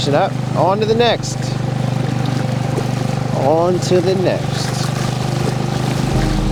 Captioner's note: boat engine revving